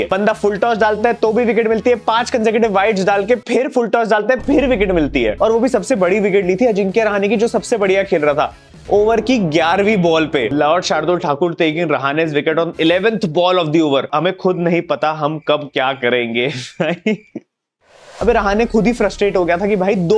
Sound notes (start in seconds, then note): 16.4 laughing